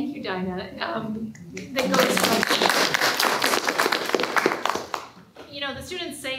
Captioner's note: applause